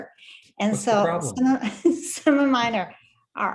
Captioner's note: laughs